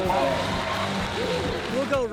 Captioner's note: crowd cheers